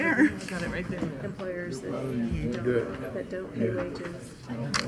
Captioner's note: people chattering